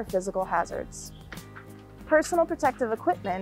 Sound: clothing rustling

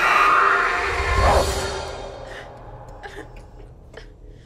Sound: screams

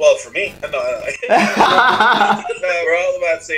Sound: laughing

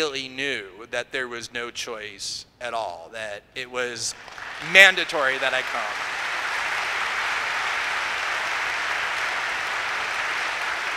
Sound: applause

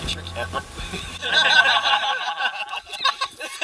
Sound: laughter

